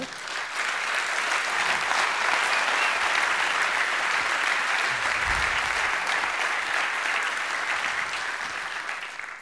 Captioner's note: applause